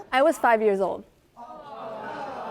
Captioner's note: audience gasping